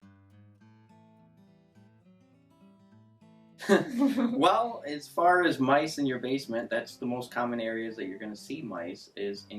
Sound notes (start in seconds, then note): 3.6 laughs